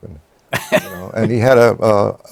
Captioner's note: laughs